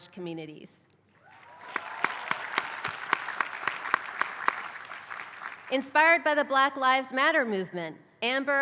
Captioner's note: applause